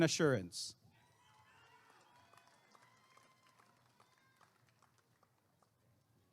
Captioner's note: applause and cheering